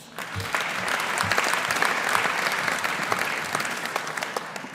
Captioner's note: audience applauding